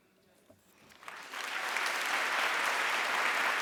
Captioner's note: applause